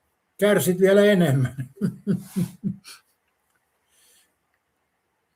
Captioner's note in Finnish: naurua